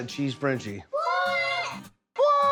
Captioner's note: kids saying together